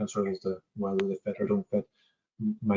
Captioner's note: audio distorts 42.41